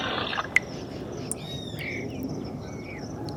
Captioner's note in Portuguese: Gotas caindo na lata